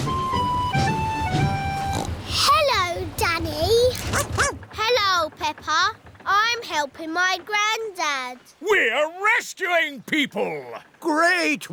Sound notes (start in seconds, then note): 1.8 snorts; 4.1 barks